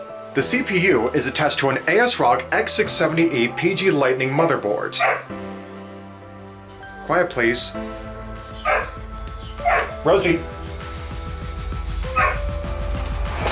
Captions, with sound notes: The CPU is attached to an ASRock X670E PG Lightning motherboard. [Rosie whimpers and barks] Quiet please. [Rosie barks] Rosie...